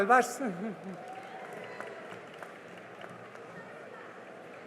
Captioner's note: cheering and applause